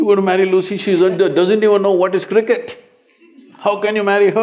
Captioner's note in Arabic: قليل من الضحِك